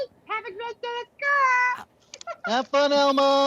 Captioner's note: laughing